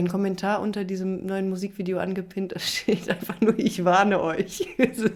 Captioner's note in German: gelächter